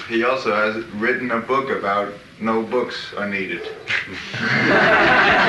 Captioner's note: laughter